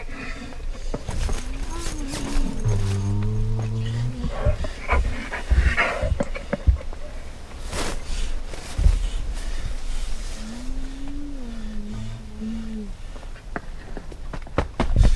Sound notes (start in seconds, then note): 0.7 animal grunting; 0.7 fabric rustling; 6.2 animal panting; 8.8 fabric rustling; 12.3 animal grunting